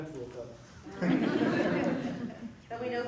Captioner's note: laughter